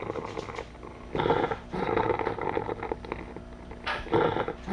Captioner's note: ragged, Wet Breathing Continues